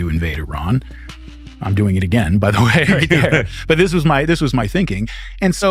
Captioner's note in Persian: خنده